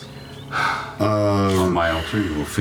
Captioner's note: sighs